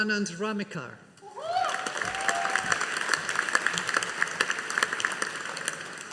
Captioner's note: audience applauding